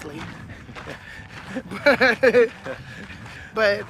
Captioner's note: laughter